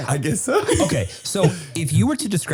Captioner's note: laughing